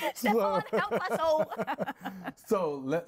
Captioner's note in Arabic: ضحك